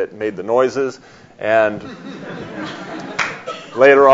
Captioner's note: audience laughs